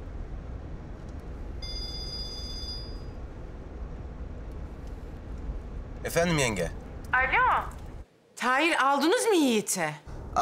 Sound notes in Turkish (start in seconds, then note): 1.6 Telefon çalıyor